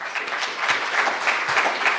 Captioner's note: audience applauds